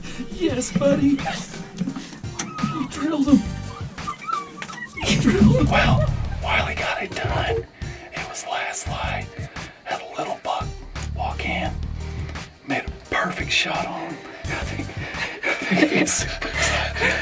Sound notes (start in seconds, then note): 6.5 whispering